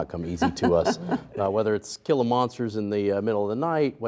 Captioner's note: laughing